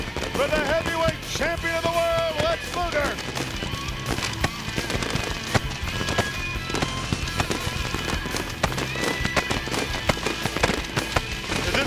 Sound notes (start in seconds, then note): 4.2 bright energetic music; 4.2 fireworks cracking